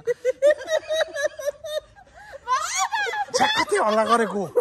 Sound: laughing

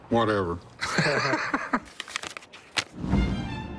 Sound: laughs

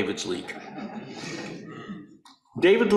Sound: audience laughing

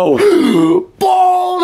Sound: Knuckles gasping

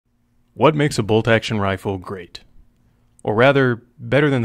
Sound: voiceover

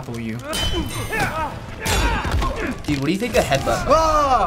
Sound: in game: fierce grunting

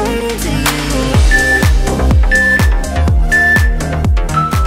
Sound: timer beeps

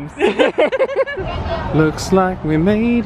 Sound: laugh

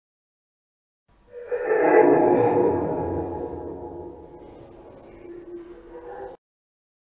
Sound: sound of monster

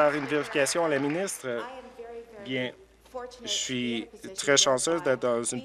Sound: applause

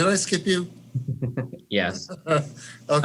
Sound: laughing

